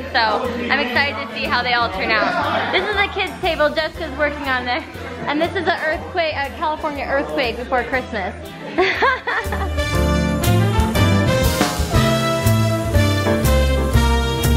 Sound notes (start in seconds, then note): 8.6 laughing; 10.1 bright music